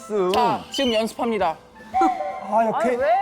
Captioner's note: whistle sound